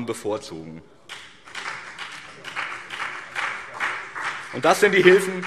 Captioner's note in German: Beifall BÜNDNIS 90/DIE GRÜNEN und vereinzelt CDU